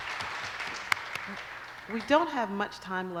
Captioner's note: applause